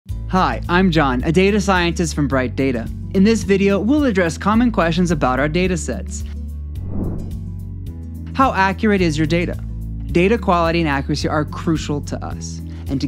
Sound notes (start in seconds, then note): 6.8 logo whooshing; 7.4 slow relaxing music